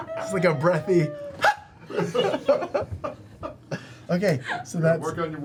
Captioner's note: laughter; grunts